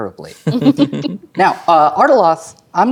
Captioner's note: players laughing